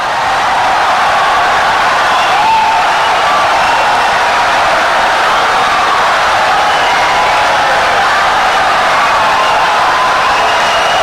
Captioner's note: wild applause and cheering for 17 seconds